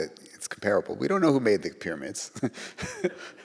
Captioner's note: chuckles; audience laughs